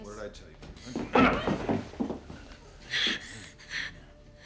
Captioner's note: footsteps shuffling; Gage grunting; Gage panting